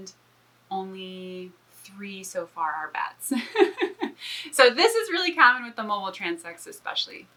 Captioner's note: laughs